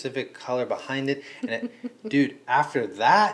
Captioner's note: laughing